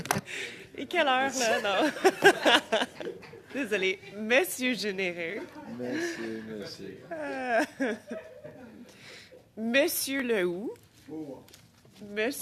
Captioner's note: laughter